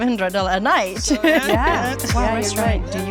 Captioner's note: group laughing